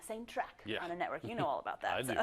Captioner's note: laugh